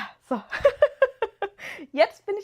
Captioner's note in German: gelächter